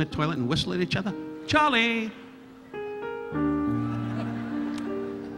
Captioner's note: audience laughing; relaxing piano music continues